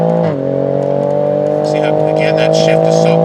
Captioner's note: car revving and shifting